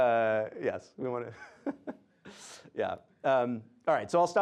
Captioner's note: laughs